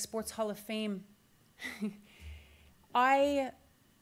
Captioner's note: laughs